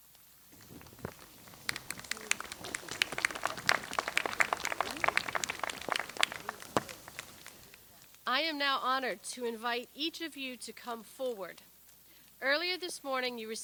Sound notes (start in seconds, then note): 0.5 audience applauds